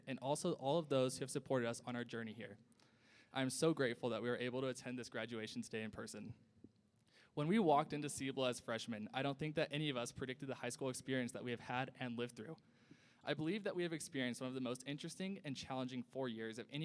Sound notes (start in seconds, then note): none